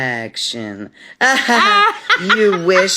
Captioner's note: laughing